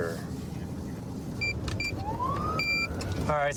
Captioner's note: buttons beeping